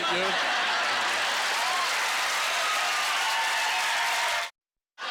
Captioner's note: audience laughter; audience cheers and applause